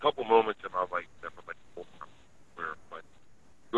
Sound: sound cuts out

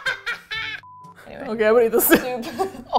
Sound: laughing; laughs hysterically

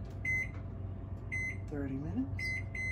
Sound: microwave oven

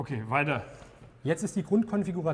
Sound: none

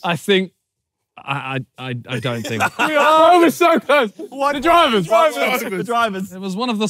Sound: laughing

